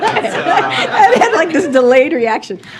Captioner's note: laughs; laughter